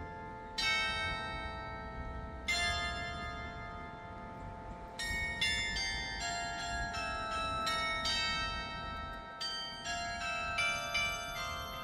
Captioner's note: church Bells Chiming